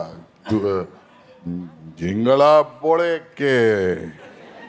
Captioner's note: speaking in Telugu